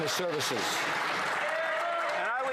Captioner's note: some Applause